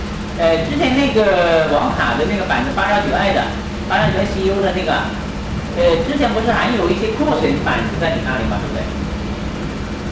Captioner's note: speaking in Mandarin